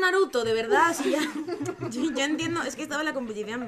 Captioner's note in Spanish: risas